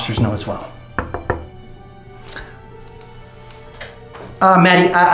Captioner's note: door knocking